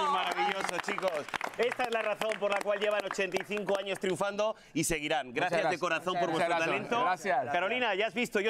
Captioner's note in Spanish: aplausos